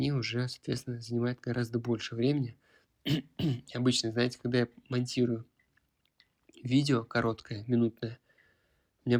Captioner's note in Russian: откашливается